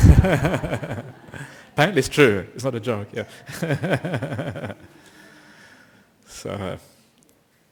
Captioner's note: laughter